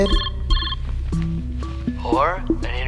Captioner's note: cell rings